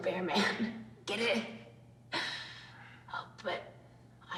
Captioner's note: laughs